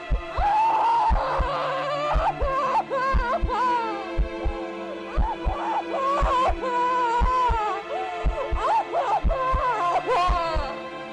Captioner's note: woman sobbing